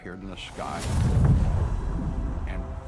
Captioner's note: thunder rumbling